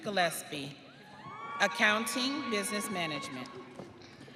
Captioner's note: audience cheering